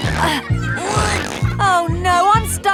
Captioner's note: grunting